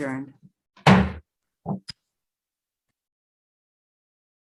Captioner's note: gavel thuds